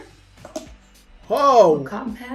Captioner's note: lid popping